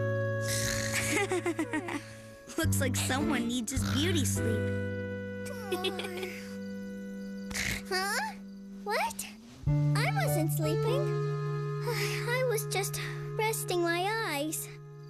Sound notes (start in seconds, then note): 2.4 giggles; 7.4 snort; 12.1 sigh